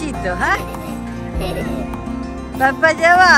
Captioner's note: laugh